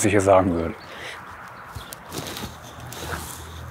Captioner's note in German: Schniefen